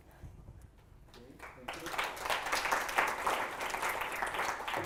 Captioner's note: applause